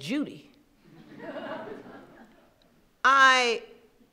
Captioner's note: laughing